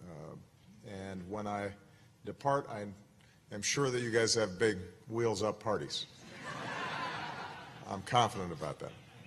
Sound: laughter

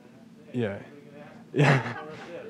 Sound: laughter

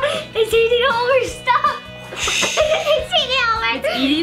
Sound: laughs; mimics explosion

